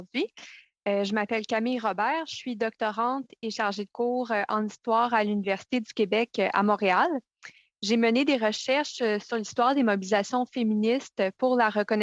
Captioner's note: speaking French